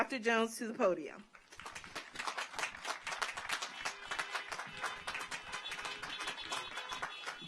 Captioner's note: audience applauds; car horns honking